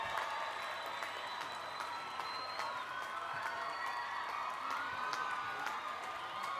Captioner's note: cheering